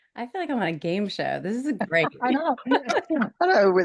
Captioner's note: people laughing